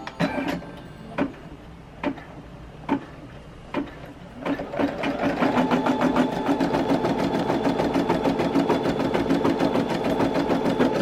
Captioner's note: machine noises